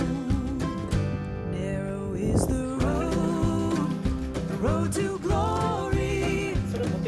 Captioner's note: laughs